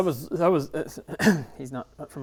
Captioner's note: clears throat